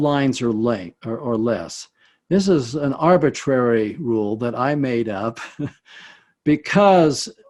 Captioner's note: chuckles